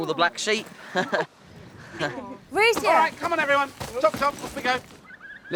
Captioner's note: chuckles